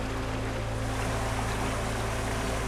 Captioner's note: water rushing